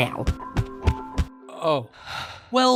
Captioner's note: sigh